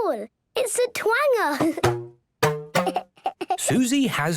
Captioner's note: giggling